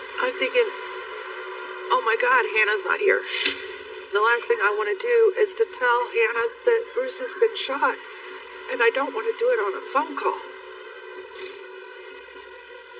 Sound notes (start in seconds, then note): 11.5 sniniffleles